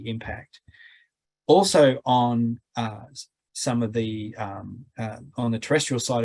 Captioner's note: stammering